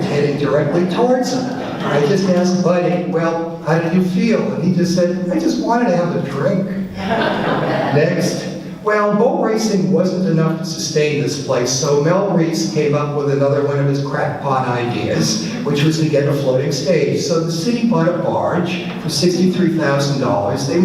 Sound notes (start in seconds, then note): 6.9 audience laughs